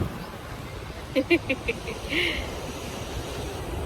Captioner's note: chuckles